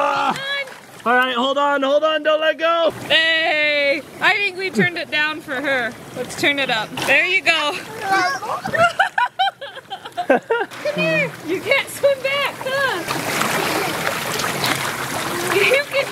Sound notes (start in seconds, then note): 7.8 laughs